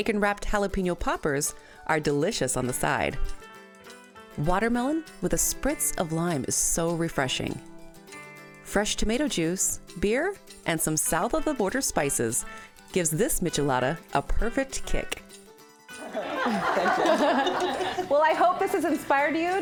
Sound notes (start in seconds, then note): 16.0 women laughing